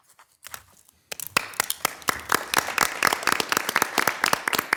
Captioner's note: audience applauding